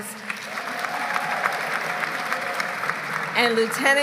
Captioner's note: applause